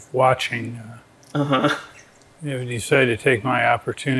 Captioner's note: laughs